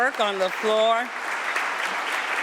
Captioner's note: applause